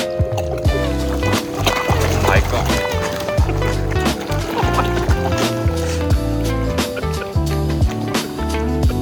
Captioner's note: fish noises